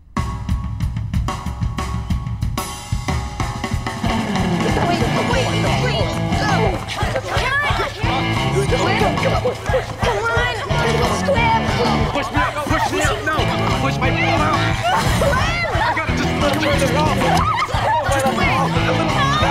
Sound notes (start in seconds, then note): 5.8 group encouraging Squib; 17.2 group squealing